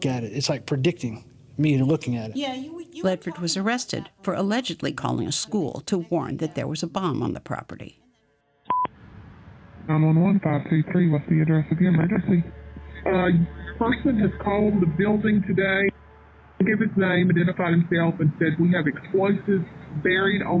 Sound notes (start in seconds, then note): 8.7 electronic beep; 10.1 on phone